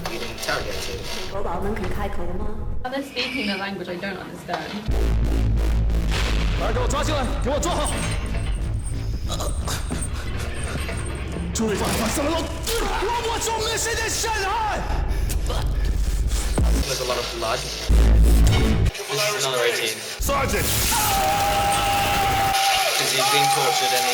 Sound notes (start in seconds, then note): 8.7 words in chinese